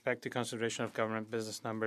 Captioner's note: speaking French